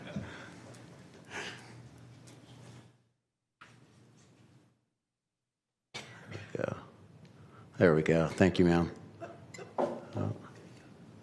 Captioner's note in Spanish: Risas